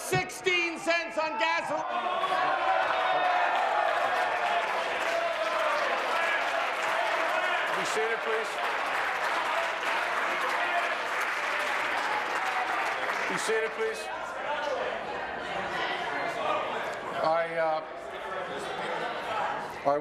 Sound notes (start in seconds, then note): 7.4 applause